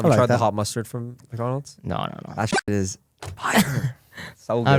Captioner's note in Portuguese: risos